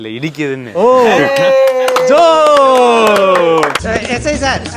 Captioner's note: clapping and mocking at the joke